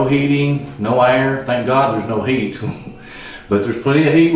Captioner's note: chuckles